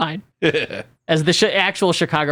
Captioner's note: laughs